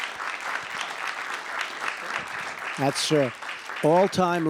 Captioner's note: applause